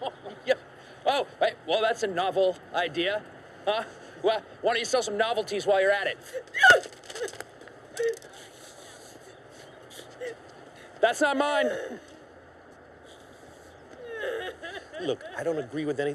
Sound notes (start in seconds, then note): 7.9 crying